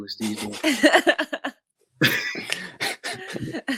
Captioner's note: all laugh